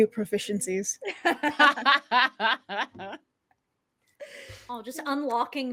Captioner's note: laughs